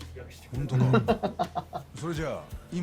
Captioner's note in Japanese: 笑い